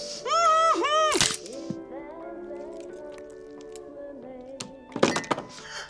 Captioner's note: crunch